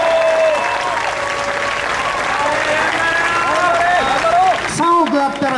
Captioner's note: audience cheers and applauds